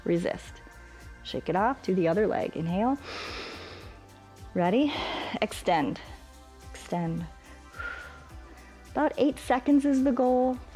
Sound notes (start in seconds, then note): 3.0 inhales; 7.4 exhales